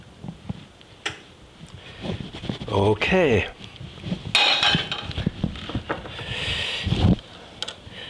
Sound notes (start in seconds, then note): 4.3 pan clatters